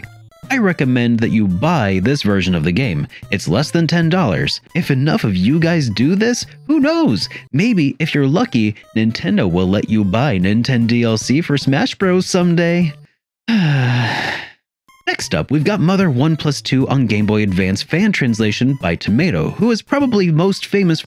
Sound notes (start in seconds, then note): 13.4 sigh